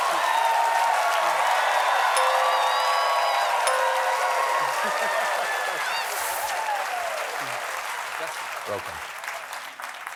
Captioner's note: ding; laughter